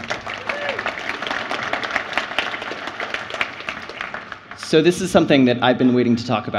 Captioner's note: applause